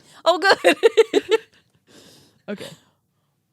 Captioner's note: laughs